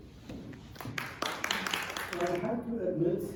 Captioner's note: applause